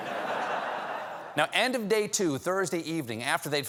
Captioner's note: laughter